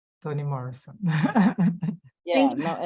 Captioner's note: laughing